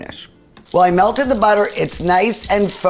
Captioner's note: butter sizzling